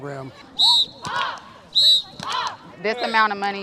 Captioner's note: whistle blowing, kids chanting